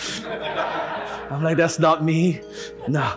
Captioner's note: audience laughing